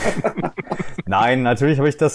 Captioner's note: laughter